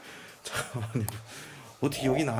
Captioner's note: laugh